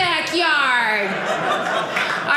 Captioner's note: audience laughing